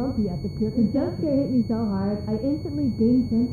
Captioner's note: muffled voice